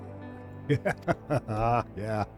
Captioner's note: laughs